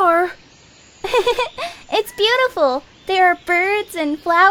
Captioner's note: giggles